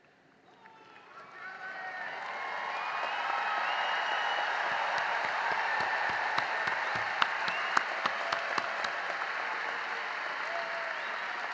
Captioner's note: cheering and applause